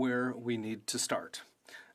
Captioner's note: speaking French